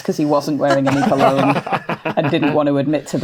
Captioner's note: others laughing